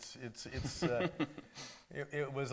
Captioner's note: laughing